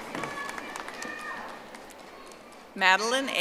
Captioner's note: audience applauding